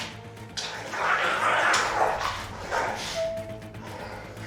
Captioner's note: is the sound of desperate struggling